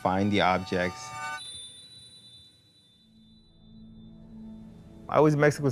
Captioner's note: bell chimes